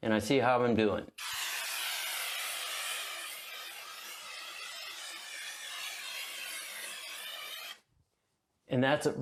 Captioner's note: spraying